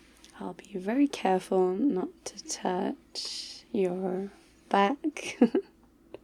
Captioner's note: laughs